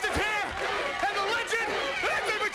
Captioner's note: crowd chanting